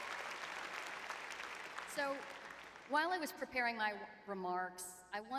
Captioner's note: applause